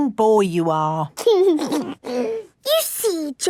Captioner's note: giggles